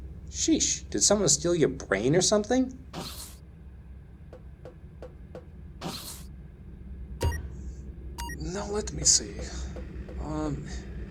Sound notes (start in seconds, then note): 3.2 door opens; 7.0 click